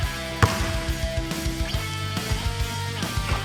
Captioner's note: bright music continues; ball thuds